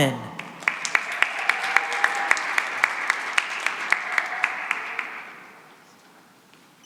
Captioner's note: cheering and applause